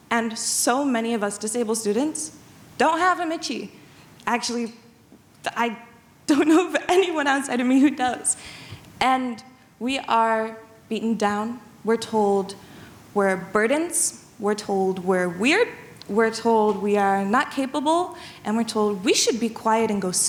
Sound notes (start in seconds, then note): none